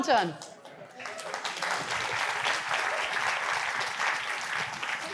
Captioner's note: audience applauding